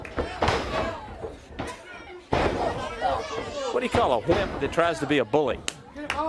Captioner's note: crowd chatter